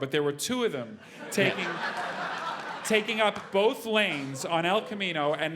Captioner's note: laugh